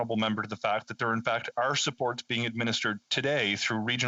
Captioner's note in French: voix de l'interprète